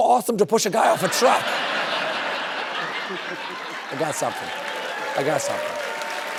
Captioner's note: laughter and applause